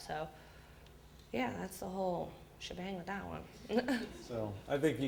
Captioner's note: audience laughter